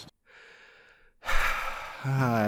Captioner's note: sigh